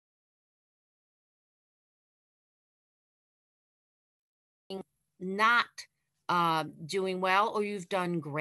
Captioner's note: audio lost